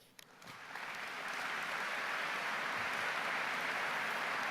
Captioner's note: audience applause